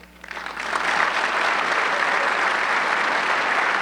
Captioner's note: audience clapping